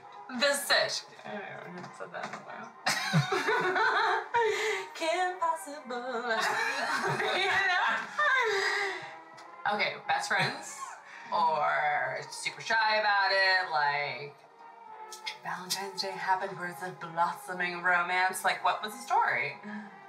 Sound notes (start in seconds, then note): 2.8 Vivi and Mike laugh; 7.3 more laughter; 11.3 Val chuckles